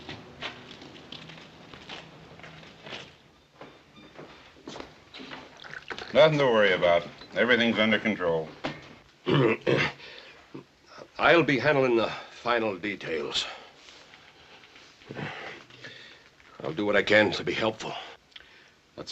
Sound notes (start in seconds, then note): 9.2 clears throat